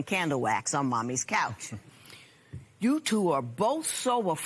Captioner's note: chuckles